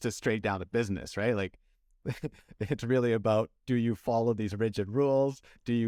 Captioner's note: laughter